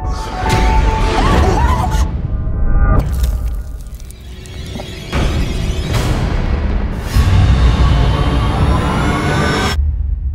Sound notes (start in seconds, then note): 1.1 screaming